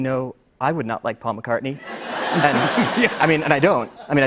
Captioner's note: laughter